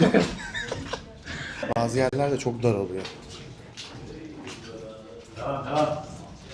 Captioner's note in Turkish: kahkaha